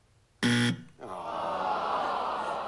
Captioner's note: buzzer